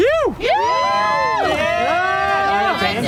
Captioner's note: riders cheering